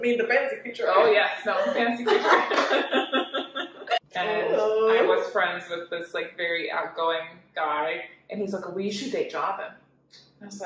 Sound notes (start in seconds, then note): 2.7 laughs